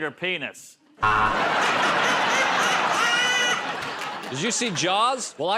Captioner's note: buzzer